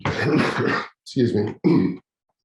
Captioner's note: coughs